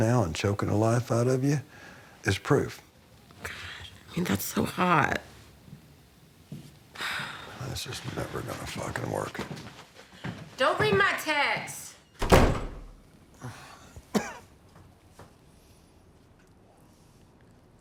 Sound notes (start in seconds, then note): 7.0 sighs; 13.4 coughs